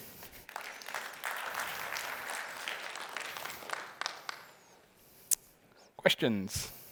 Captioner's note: applause